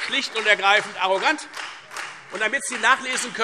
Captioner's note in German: Beifall Freie Demokraten